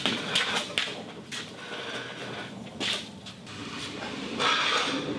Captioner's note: wheels rolling slowly